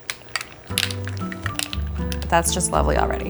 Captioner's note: mussels clicking; gentle music